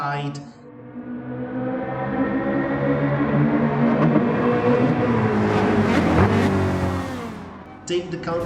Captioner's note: engines revving, cars noises